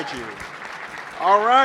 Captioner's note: applause